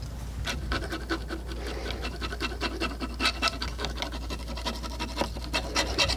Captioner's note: scratching